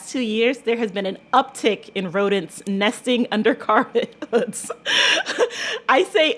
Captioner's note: laughter